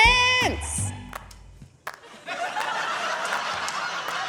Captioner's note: laughter